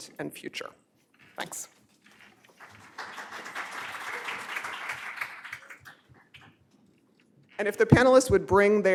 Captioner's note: applause